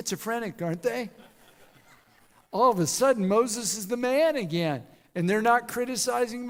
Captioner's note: laughter